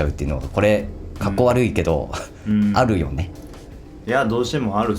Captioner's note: laughs